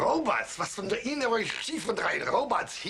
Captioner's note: speaking German